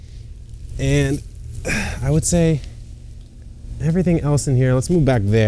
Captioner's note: grunts